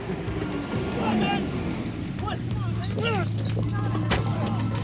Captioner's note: yelling